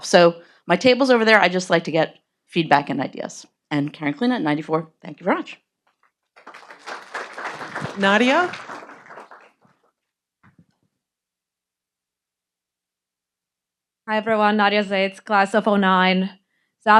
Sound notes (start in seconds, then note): 6.3 audience applauding